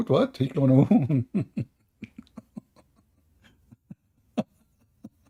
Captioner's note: Ketawa